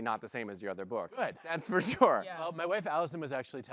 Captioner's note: laughing